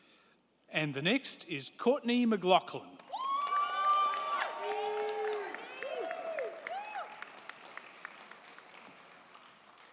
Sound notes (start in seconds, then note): 3.0 crowd clapping; 3.1 crowd cheering